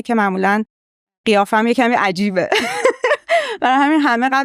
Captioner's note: laughs